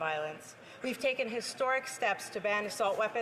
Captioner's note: speaking French